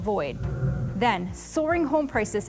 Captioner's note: screen whooshing